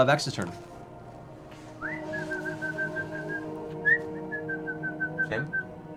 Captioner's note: whistles as if for a dog